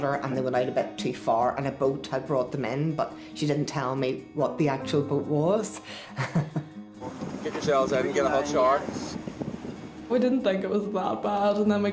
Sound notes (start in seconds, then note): 6.1 chuckles